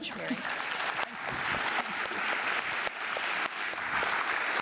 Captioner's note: audience applauding